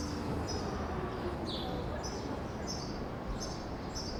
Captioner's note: birds chirping